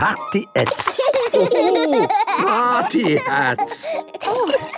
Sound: laughing

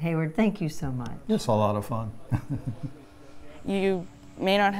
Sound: laughs

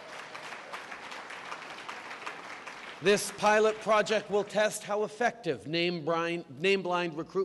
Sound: applause

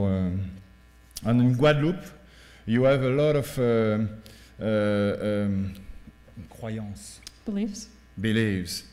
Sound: speaking french

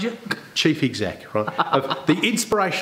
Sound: laughs

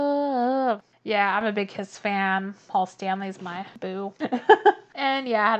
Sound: laughs

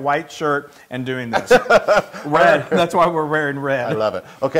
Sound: laugh

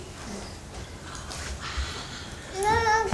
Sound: whispers

